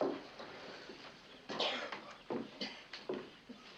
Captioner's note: continues coughing